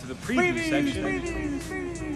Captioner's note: echoing